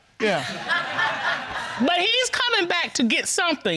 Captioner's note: audience laughs